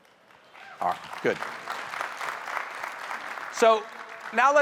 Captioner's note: audience applauding